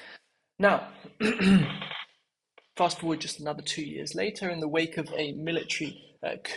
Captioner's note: cough